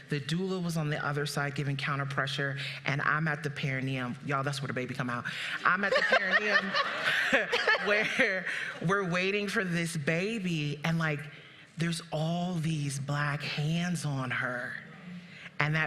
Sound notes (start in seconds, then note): 5.8 audience laughing; 7.6 laughing